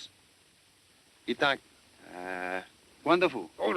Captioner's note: speaking italian